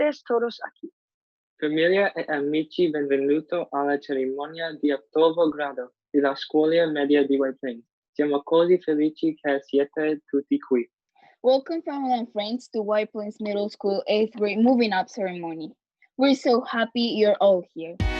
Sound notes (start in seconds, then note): 1.5 speaking in Italian